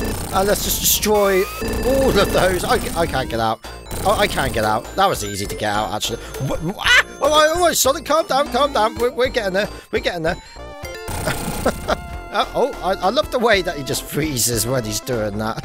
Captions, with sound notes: Let's just destroy all of those. Okay, I can't get out. Oh, I can get out, that was easy to get out, actually. Ah! Alright! Alright, Sonic, calm down! Calm down, we're getting there. We're getting there. [chuckles] I love the way that he just freezes when he's doing that.